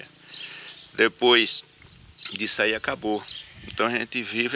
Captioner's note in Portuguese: Canto de pássaros